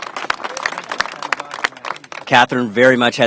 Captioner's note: applause